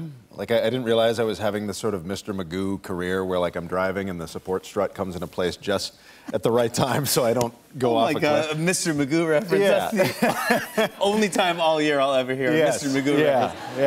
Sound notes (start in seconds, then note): 9.9 both laugh